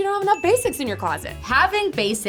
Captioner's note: bell ringing